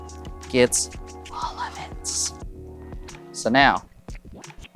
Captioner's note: whispering